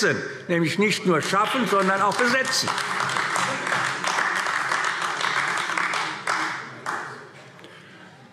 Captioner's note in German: Beifall AfD